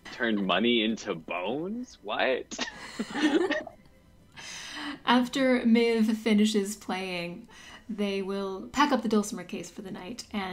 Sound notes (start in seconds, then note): 2.5 laughter